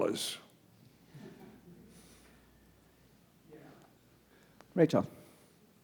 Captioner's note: audience chuckles